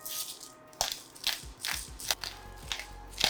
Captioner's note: pepper mill grinding; gentle music continues